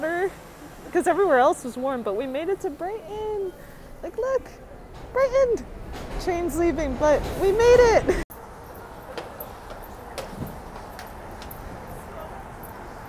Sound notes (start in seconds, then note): 4.8 train car rattling; 8.2 bangles jangling; 9.1 sandals clicking